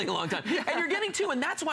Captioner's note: laughter